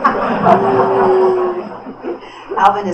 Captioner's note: booing; laughter